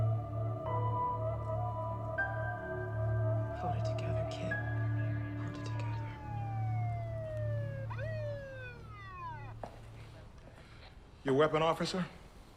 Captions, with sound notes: - Hold it together, Kit, hold it together. (police siren wailing) - Your weapon, officer?